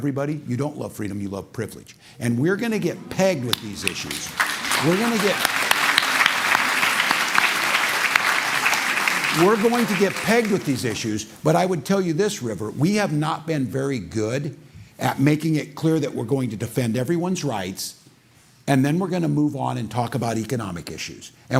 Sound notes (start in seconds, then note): 5.7 applause